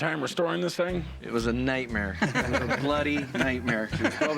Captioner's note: laughter